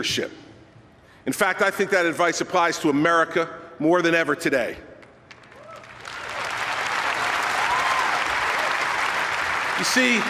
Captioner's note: delayed applause